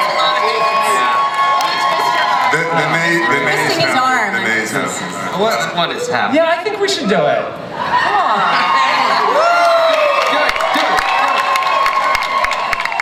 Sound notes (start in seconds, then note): 2.2 audience cheers; 7.8 audience cheers; 8.8 cast applauds